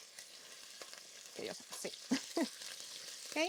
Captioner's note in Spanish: risas